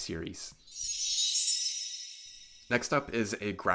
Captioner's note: chime sound